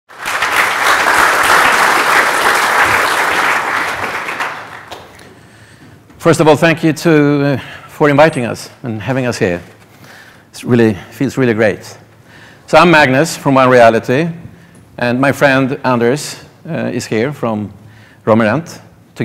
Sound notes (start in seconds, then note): 0.1 applause